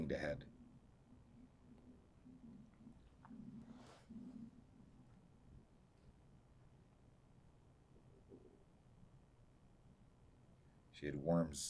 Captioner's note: pauses 10 seconds